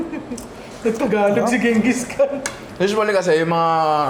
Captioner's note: laughs